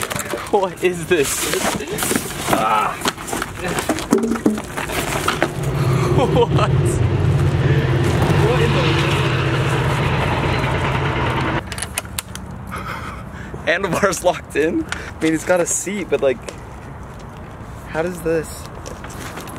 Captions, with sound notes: What is this? What (laughs)? Handlebars locked in. And it's gotta a seat, but like, how does this?